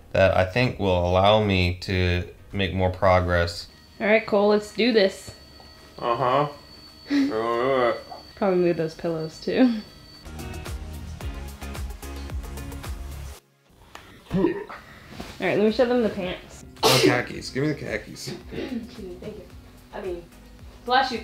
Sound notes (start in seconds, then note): 10.6 soft music; 16.8 sneezes